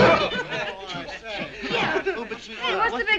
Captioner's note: murmuring